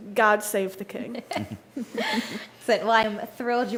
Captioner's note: everyone laughs